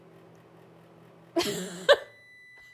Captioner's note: laughing; microwave beeping